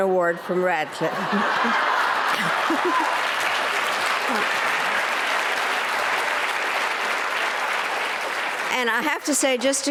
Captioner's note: applause